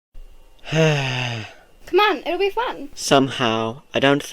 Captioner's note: sighs